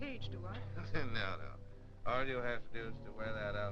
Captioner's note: chuckling